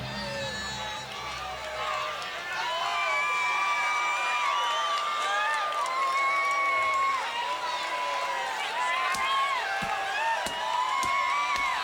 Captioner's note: crowd cheering